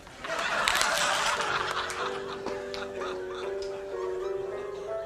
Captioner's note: apple crunching